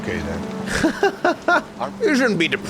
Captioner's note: laughs